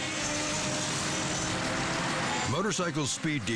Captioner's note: motorcycles revving